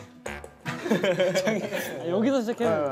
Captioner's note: giggling over a ping-pong ball